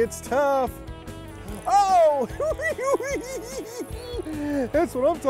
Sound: giggling

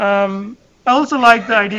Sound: laughter

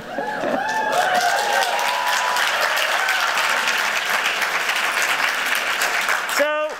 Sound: cheering

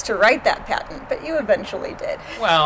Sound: laughs

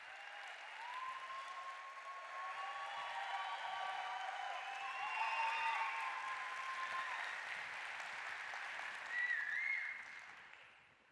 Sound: applause

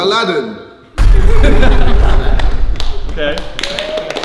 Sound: explosive sound; group clapping

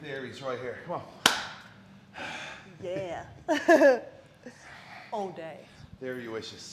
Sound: laugh

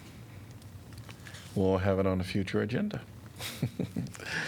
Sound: laughter

